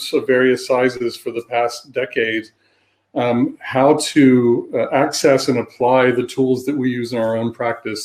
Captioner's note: erm